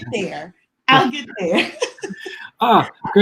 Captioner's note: laughs